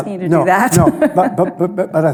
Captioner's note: laughs